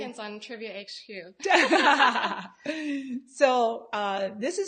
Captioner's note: both laughing